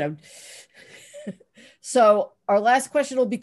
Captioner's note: laughs